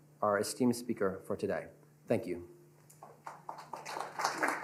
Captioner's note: applause